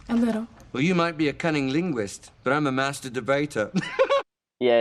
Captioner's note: laughs